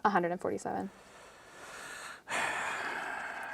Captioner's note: draws deep breath